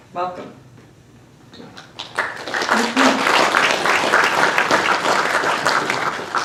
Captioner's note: applause